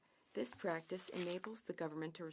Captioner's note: speaking French